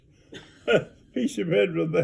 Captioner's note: chuckles